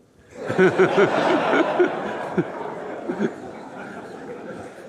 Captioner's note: audience laughing